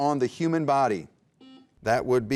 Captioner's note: beep